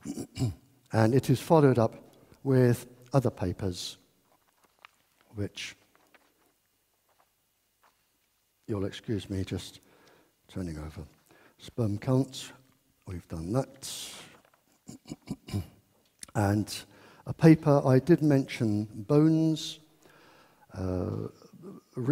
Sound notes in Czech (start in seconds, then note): 8.1 mumlá